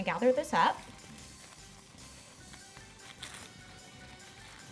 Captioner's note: plastic crinkling